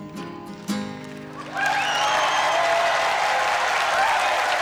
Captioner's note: crowd cheering and clapping